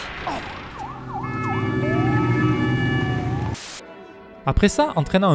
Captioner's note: Vienna police sirens